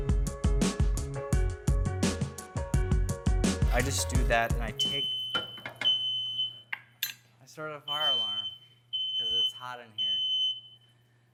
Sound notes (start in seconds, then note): 0.0 bright music; 5.2 fire alarm beeping; 8.9 fire alarm beeping